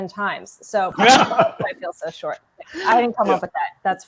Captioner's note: laughing